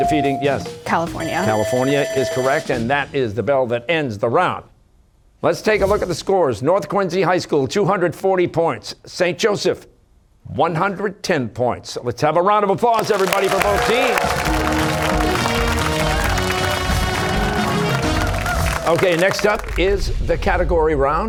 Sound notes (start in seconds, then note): 3.1 bell ringing; 12.9 cheers and applause